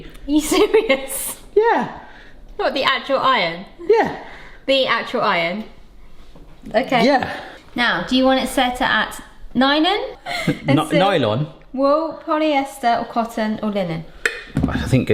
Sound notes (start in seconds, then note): 10.2 chuckles